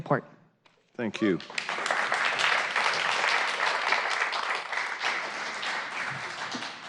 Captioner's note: applause